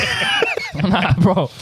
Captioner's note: laughing